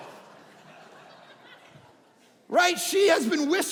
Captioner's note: audience laughing